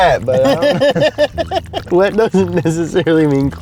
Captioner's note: laughing